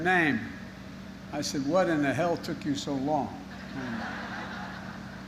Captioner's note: laughter